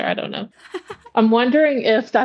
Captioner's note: laughs